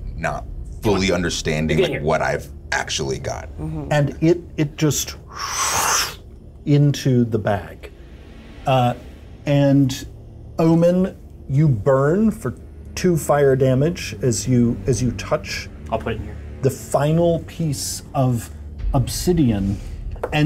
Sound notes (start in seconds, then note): 5.3 slush sound